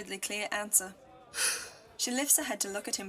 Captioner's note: Lily sighs